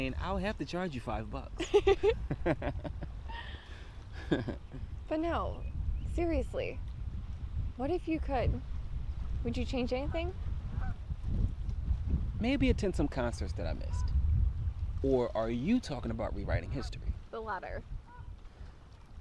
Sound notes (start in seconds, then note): 1.9 both laughing; 10.5 duck quaking